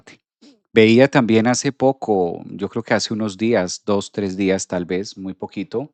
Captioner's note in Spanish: resoplido